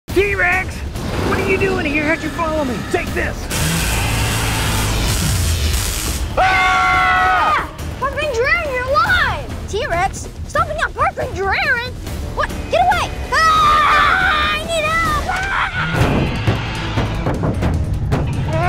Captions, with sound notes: - T-Rex, what are you doing here? How'd you follow me? Take this! (weapon zapping) (both yelling) - Park Ranger Aaron, you're alive! T-Rex? Stomping on Park Ranger Aaron? What? Get away! (yelling) I need help! (T-rex growling)